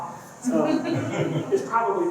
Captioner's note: laughter